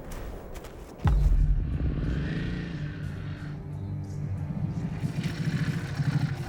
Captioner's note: suspenseful music; motor whirring